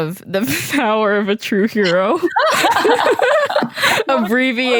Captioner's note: laughter